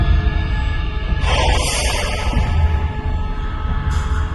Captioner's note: vents expel air